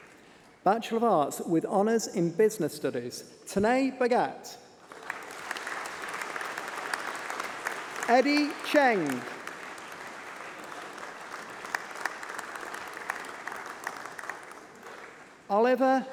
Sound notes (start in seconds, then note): 4.8 applause